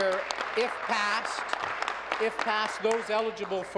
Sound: applause

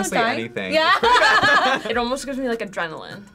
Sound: laughs

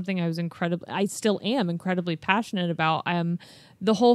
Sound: none

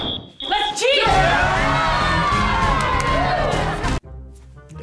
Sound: everyone cheering

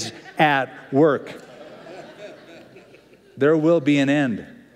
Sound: laughter

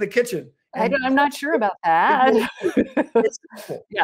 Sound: chuckle

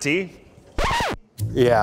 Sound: record scratch

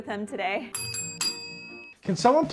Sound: bells ring

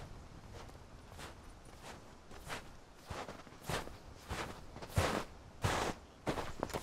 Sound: feet crunching on snow

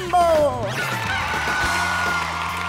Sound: rooster crowing

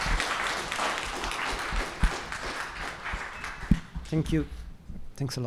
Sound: applause

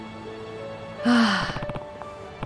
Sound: sighs

